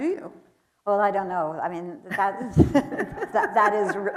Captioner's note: laughs